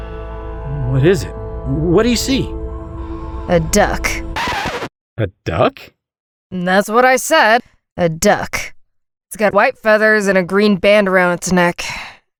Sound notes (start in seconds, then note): 3.9 confused